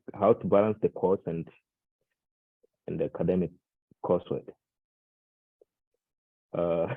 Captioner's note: chuckles